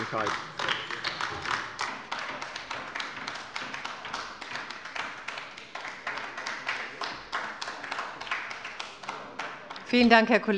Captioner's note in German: Beifall bei der LINKEN